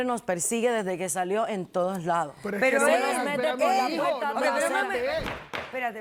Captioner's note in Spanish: Hablan al unísono